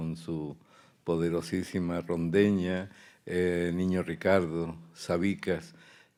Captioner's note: speaking in Spanish